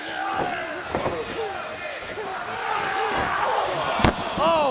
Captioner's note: Brian Knobbs shouting